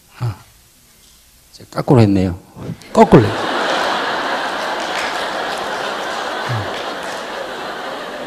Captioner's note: audience Laughter